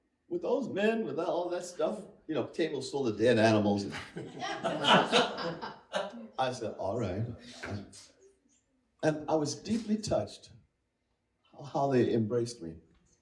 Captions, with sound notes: With those men, with all that stuff. You know, tables sold to dead animals. [Laughter] I said, alright. And I was deeply touched how they embraced me.